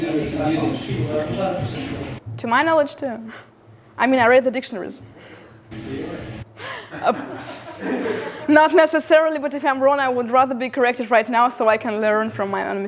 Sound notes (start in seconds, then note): 6.7 laughter